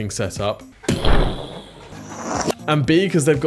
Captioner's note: mimics explosion